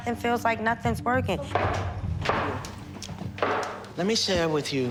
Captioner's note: tapping